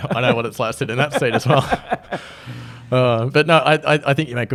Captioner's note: laughs